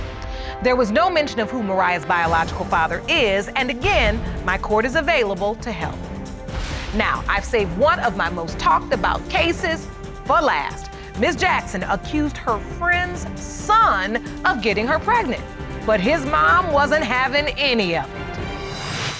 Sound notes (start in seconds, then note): none